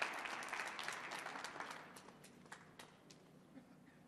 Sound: audience clapping

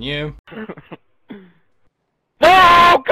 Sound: snickering

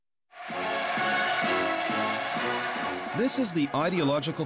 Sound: cheers

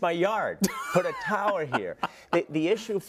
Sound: laugh

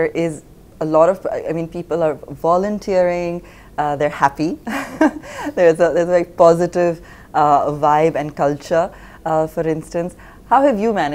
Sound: laughs

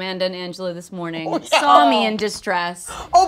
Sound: laughing

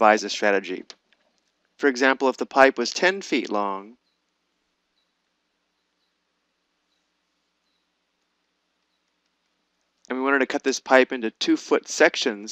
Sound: pause

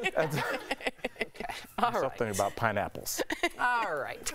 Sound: laughter

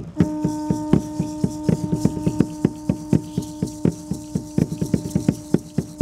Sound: conch sounding; rattles sounding

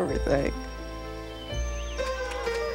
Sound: cheering and crying; applause

